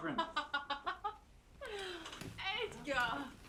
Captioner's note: laughing